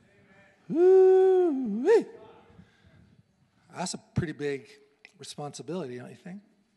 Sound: faint shouting

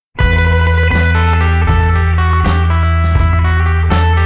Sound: truck engine revving

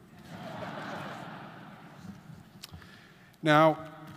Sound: audience laughing

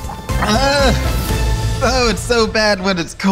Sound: groans

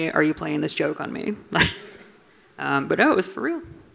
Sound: laughs

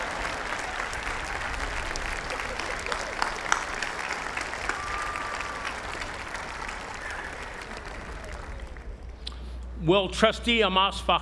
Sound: applause

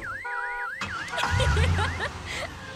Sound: laughs

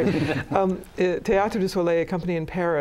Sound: laughs

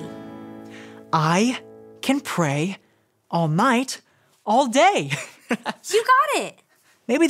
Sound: laughs

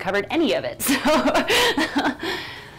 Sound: laughs

